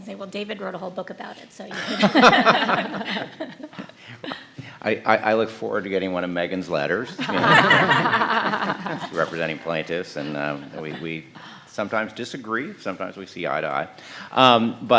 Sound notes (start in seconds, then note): 1.7 all laughing; 7.0 panelists laughing